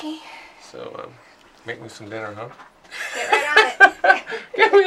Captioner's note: laughs